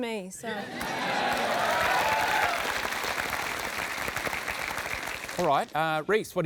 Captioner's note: applause